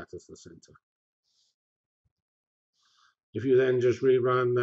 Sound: pause

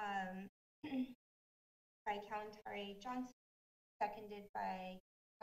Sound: clears throat

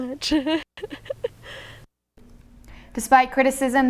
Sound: laughs

